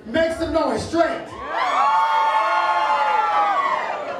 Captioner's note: cheering